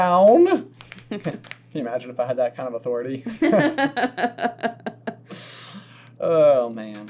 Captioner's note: laughter